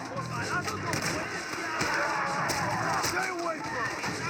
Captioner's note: zombie runner attacking and rifle shot